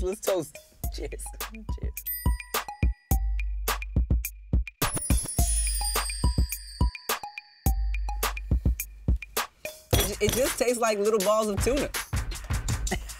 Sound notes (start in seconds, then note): 1.0 bell dings